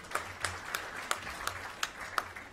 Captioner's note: applause